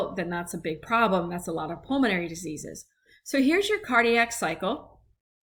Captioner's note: respiratory